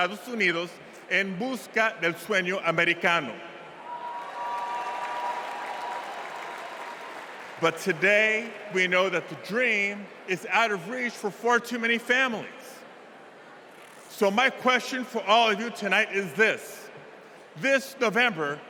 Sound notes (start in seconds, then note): 6.0 cheers and applause